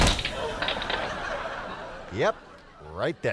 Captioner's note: audience laughing